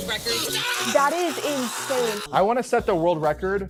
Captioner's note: group cheering